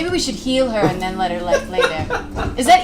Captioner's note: laughs